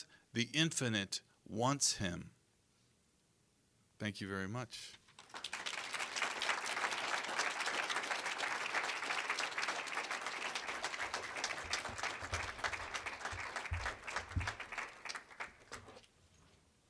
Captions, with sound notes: THE INFINITE WANTS HIM. THANK YOU VERY MUCH. (applause)